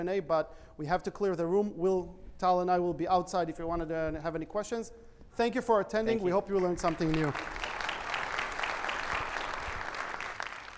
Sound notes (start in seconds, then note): 6.8 audience applauds